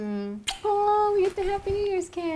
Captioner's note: kiss